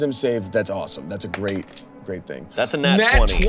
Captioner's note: die rolling